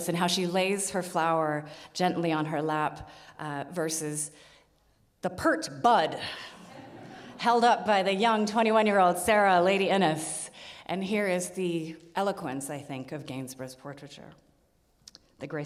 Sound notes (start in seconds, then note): 6.6 audience laughs